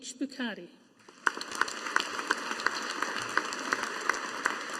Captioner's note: audience applauding